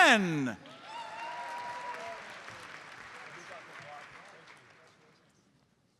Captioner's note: audience cheers and applauds